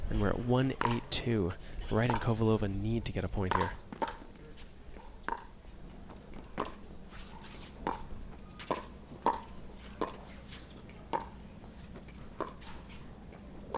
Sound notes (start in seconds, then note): none